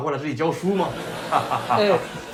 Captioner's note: crowd laughs